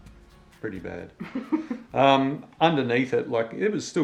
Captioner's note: laughs